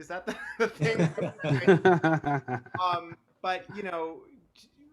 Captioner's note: all laugh